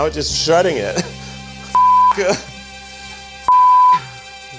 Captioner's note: swearing